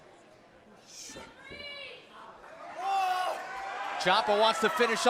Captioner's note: crowd chatter